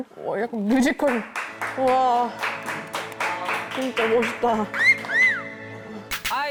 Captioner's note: clapping